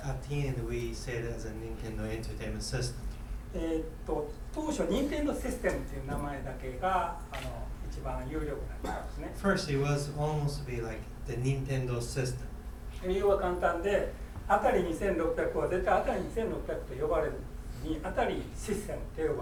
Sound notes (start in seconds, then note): 3.7 speaking in foreign language; 8.8 coughing; 13.1 speaking in foreign language